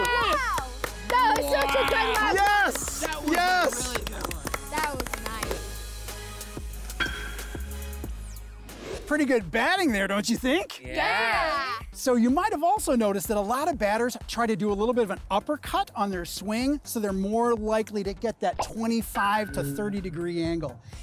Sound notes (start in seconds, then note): 2.8 clapping; 4.2 crew members clapping; 7.0 bat hits ball